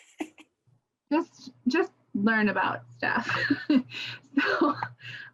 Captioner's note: chuckles